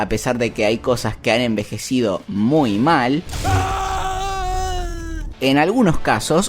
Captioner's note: Anakin's death sound